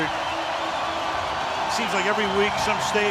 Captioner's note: cheering